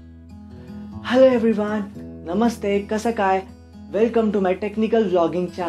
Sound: in hindi

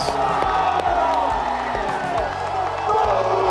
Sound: team cheering

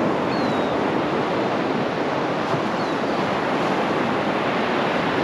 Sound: gulls calling

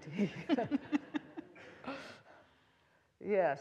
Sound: all laughing

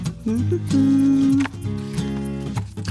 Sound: humming

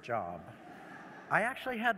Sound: laughter

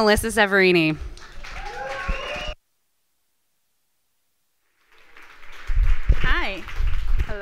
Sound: applause from the audience

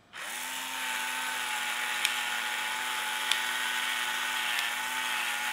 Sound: grinder whirring

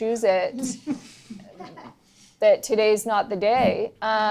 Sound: laughter

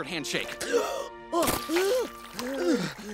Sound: gasps, makes noises

